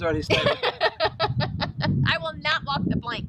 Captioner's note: laughs